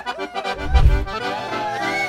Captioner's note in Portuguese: Efeito sonoro de transição